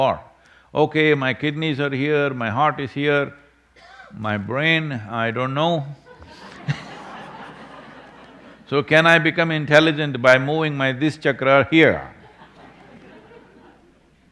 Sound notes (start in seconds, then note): 6.0 laughter